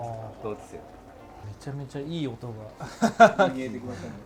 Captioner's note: laughs